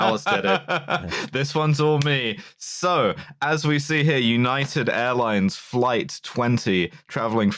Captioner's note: laughs